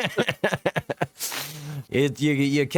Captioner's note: laughing